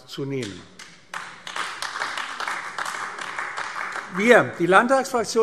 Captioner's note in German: Beifall AfD